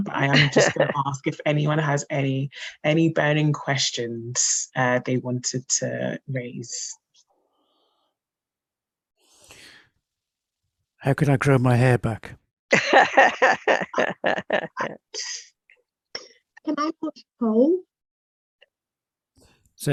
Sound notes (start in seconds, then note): 15.5 laughs